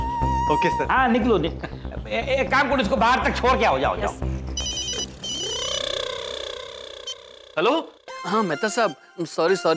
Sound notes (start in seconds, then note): 4.6 phone ringing